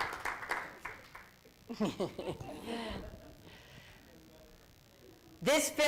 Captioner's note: laughter